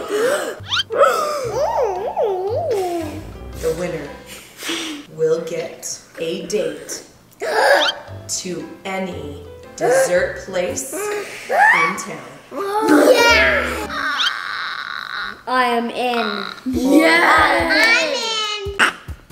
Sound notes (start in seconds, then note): 0.0 laughing; 0.0 gasping; 7.2 gasps; 13.8 screams of excitement